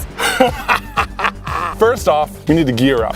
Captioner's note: evil laugh